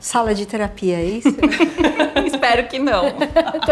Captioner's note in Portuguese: risos